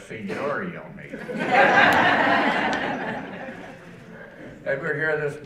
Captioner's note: audience laughing